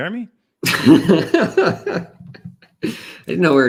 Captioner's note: laughter